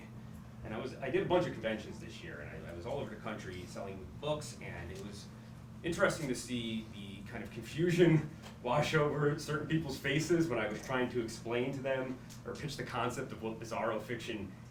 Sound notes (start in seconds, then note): none